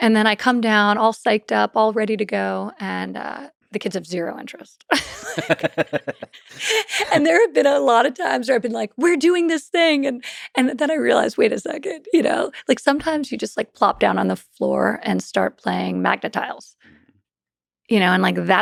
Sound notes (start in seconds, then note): 4.9 both laughing